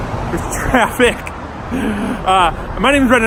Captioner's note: laughs